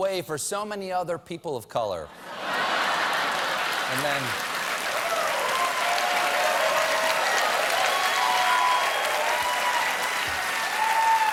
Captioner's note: applause; laughter